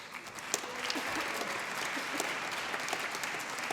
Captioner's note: applause